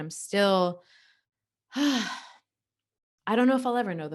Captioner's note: sighs